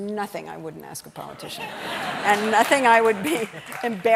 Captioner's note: laughter